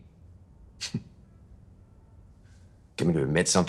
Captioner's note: chuckles